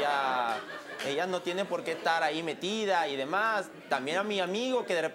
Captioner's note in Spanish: Risas